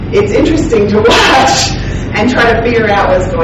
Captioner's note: laughing